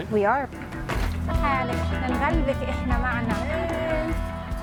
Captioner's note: speaking world language